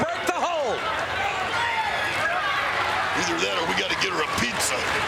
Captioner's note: applause